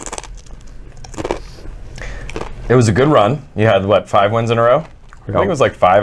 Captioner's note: cronch